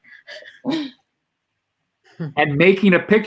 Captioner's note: chuckling